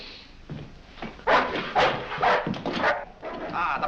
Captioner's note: barking